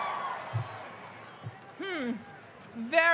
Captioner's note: cheering